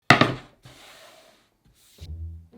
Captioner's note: board sliding; quirky music playing throughout the video